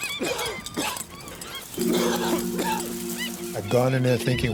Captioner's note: coughing; coughs